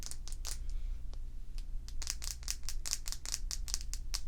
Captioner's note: tapping sounds